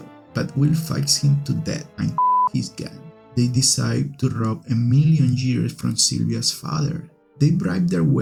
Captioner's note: beep